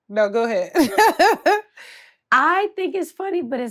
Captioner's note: laughs